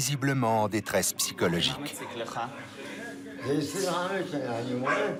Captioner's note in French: Audio parlé en hébreu